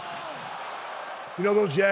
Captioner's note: audience cheers